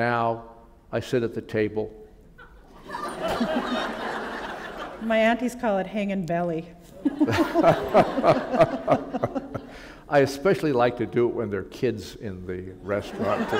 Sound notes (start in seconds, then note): 7.0 laughter